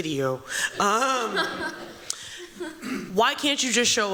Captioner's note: laughter